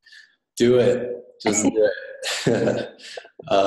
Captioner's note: laughing